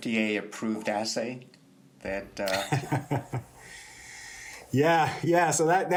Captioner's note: laughter